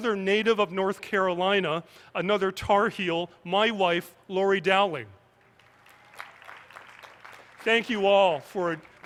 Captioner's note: applause